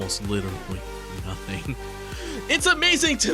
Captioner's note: chuckle